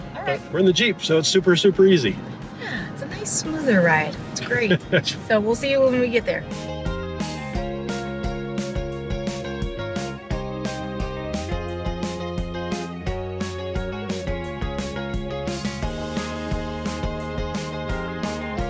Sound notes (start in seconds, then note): 4.5 laughs; 7.1 upbeat music continues